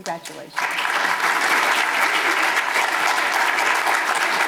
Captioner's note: audience applause